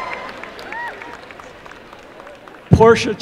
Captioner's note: applause and cheering